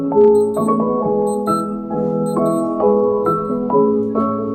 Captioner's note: watch alarm